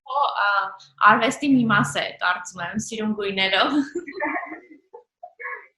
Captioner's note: laughing